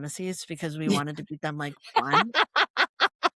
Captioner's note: laughter